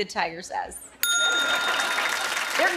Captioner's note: ding!; laughter and applause